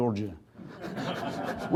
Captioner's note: laughter